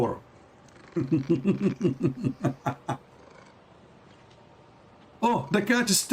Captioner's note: Ketawa